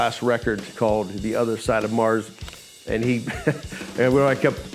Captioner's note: laughs